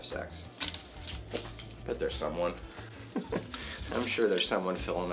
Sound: laughs

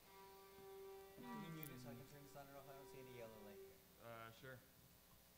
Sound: background talk

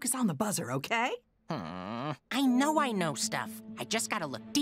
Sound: groans

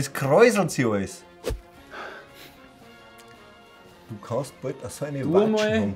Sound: sniffs

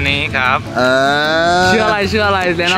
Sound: sound of acknowledgement

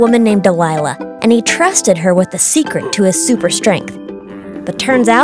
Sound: grunting

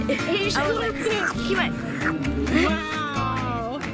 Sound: slurps

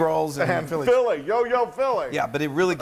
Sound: laugh

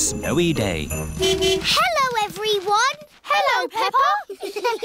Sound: horn honking; giggling

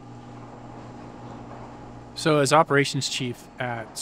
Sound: garage door whirring

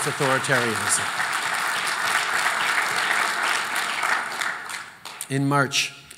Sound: applause

